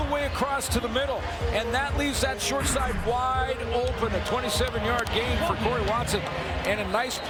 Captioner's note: cheering and Applause